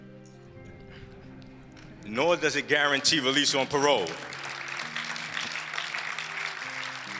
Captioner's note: applause, laughter